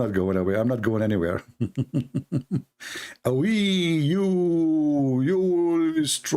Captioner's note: Ketawa